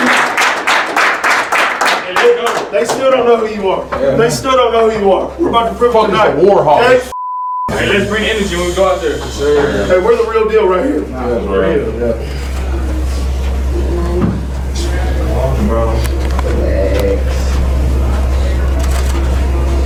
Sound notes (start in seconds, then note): 4.0 clapping